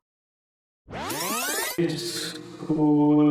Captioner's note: tape rewind